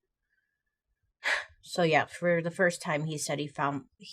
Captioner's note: exhales